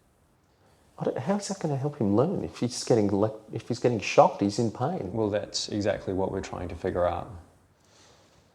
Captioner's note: none